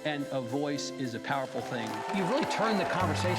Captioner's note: audience applauding